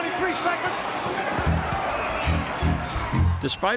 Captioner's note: audience cheering; bright energetic music